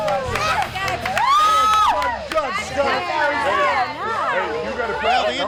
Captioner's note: group clapping; group cheering; group chattering